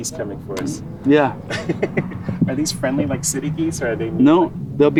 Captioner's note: laughs